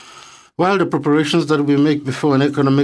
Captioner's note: speaking French